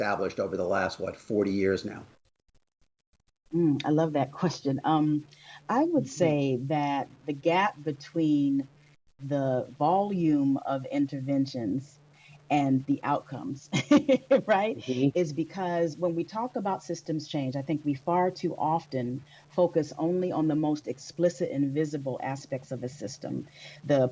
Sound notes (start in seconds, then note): 13.7 laughter